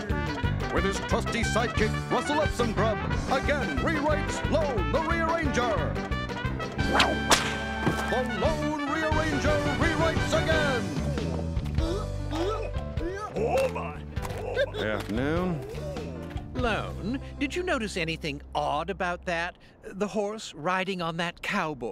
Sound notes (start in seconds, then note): 6.8 whip cracks; 11.7 groaning